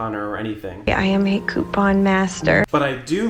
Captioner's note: voiceover